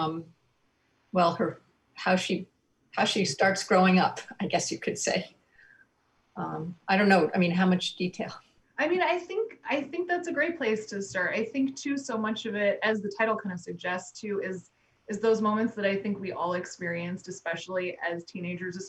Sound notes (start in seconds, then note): none